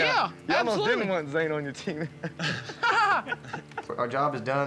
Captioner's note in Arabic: يضحك